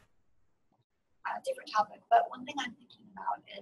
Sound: voiceover

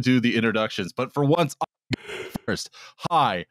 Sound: yawns

